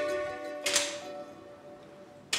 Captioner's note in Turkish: Kapı açıldı